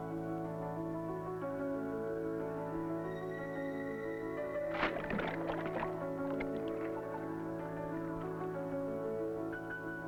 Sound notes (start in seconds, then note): 4.6 water splashing; 6.6 light uplifting music